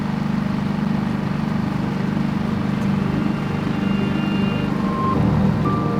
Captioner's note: boat rumbling; sad dramatic music